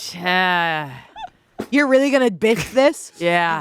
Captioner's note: laughing